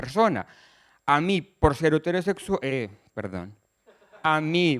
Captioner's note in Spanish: risas